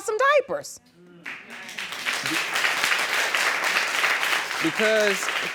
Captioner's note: audience applauding